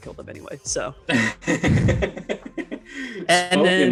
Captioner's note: laughs